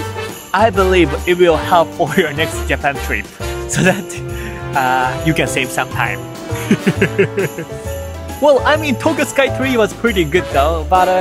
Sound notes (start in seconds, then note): 6.6 laughs